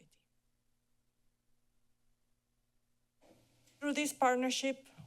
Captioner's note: pause